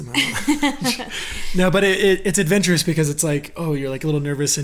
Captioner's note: laughs